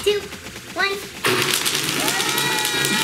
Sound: blender whirring; yelling

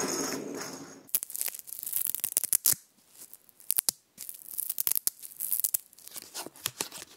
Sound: velcro

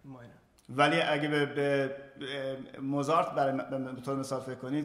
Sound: speaking in farsi

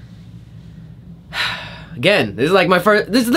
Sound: sighs

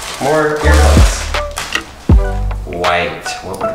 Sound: upbeat music; plastic crinkling

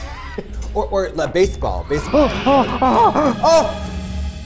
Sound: dramatic music playing; gasping

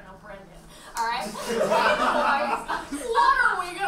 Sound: audience laughs

